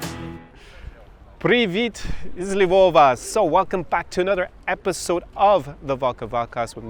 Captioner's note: Ukrainian